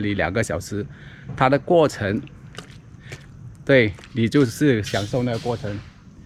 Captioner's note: walking